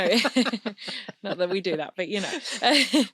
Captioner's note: both laughing